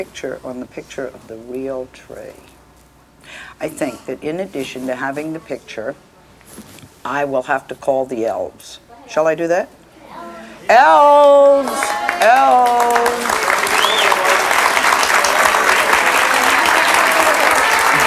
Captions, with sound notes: on the picture of the real tree. I think that in addition to having the picture, I will have to call the elves. Shall I do that? Elves! Elves! (audience cheers)